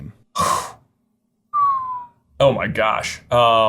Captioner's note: sighing; whistling